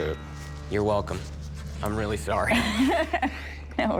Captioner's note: laughs